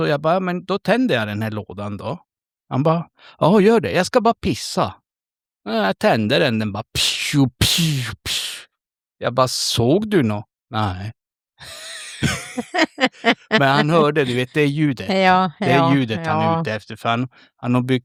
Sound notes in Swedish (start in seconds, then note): 11.6 skratt